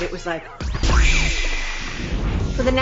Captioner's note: explosion